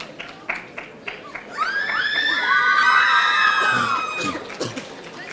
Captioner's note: audience cheering